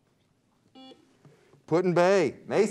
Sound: buzzer beeps

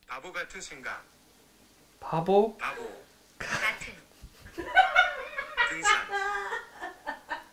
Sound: laughing

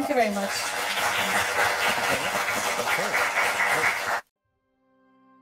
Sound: applause

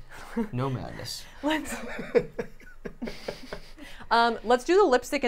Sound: laughing

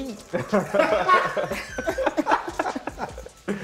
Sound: laughter

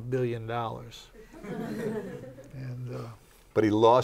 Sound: laughter

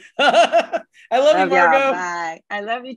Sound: laughing

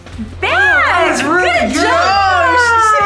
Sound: everyone exclaiming

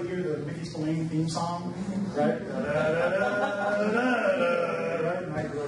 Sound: hums

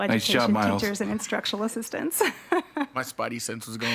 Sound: laughs

